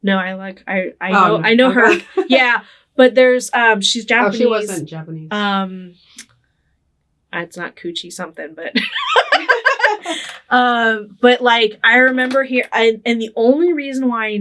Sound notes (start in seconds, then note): 1.1 laughing; 8.8 both laughing